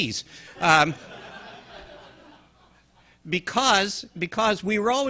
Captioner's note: audience laughing